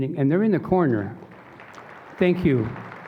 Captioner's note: applause